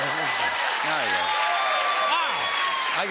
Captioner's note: cheers and applause